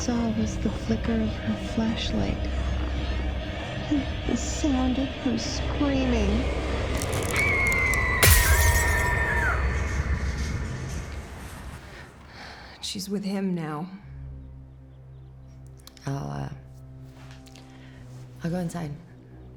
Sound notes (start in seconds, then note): 7.3 Flora screaming; 8.2 glass shatters